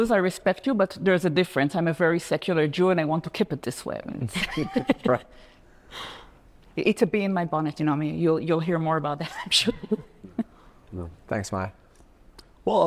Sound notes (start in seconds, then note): 4.2 laughs; 9.4 laughs